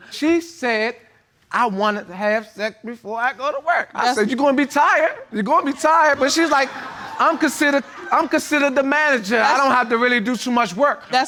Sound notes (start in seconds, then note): 5.6 laughter